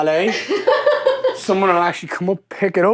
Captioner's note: laughing